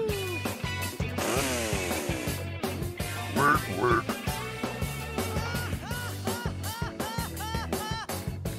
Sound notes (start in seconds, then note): 1.1 chainsaw noise; 3.3 orc grunt; 5.3 Tidus laugh